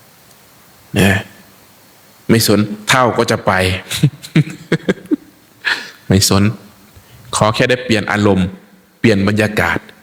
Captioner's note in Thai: เสียงหัวเราะ